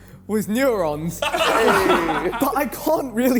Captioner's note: men laughing